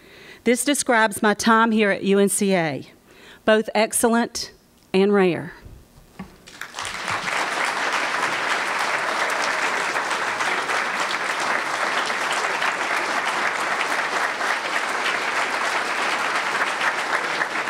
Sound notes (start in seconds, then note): 6.4 applause